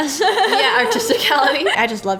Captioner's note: laughs